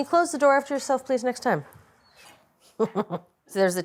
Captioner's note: chuckling